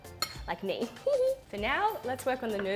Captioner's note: giggles